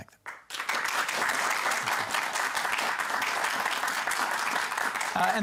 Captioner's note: applause